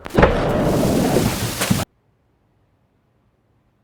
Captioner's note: loud bang